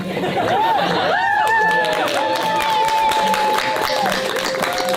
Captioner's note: audience laughing; attendees cheering